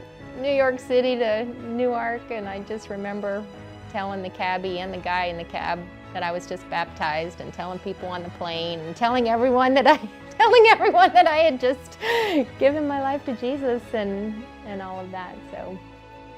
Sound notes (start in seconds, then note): 10.9 laughter